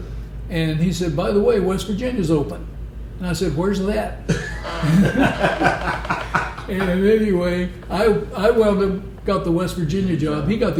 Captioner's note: laughter